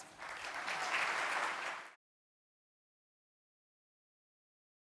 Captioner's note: audience clapping